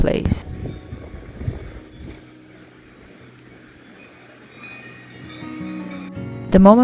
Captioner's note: cowbells clanging in the distance